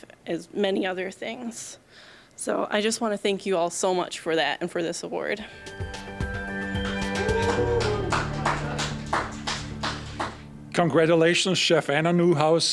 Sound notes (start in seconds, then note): 5.5 bright upbeat music; 6.3 applause